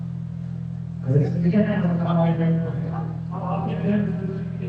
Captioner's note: crowd chattering